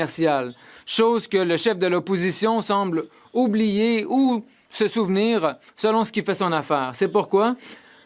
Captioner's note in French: voix de l'interprète